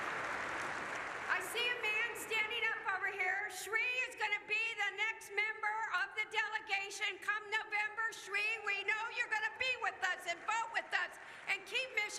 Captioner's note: cheers